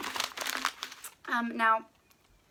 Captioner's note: paper crinkling